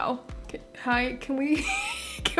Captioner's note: wheeze